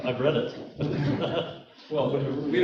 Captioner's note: laughing